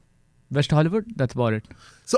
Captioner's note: speaking in foreign language